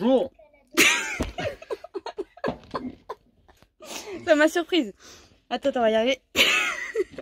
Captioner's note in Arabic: يضحك